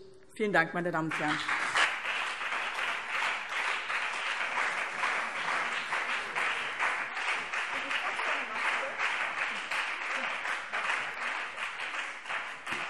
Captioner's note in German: Beifall BÜNDNIS 90/DIE GRÜNEN und CDU